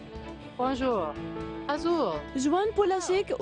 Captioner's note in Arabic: تتحدث الفرنسية